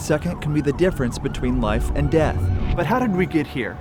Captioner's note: siren blaring